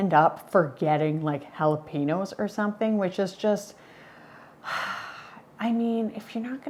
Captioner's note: sighs